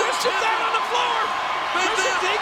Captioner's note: crowd cheering